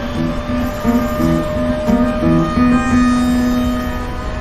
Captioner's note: tornado siren wails